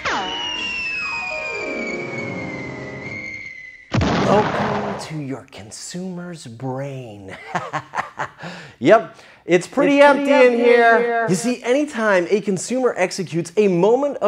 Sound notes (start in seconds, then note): 1.1 suspenseful music; 3.8 explosion; 7.3 laughs